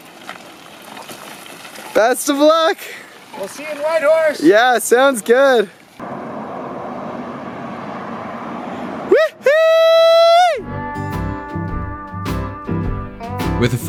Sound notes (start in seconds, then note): 9.5 cheers; 10.6 happy country music